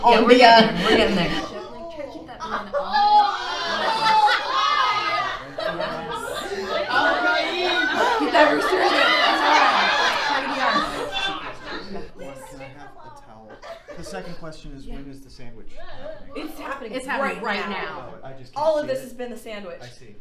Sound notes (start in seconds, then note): 2.9 audience reacts; 6.4 gasps